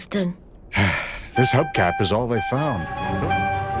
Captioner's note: sigh